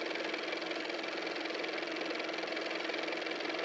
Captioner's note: car motor